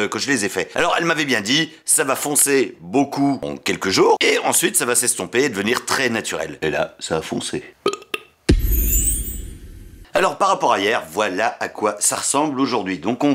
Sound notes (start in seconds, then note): 7.8 burp